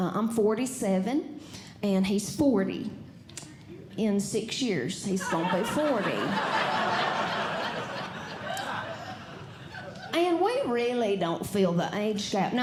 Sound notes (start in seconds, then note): 5.2 audience Laughing